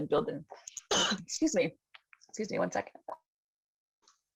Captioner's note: coughs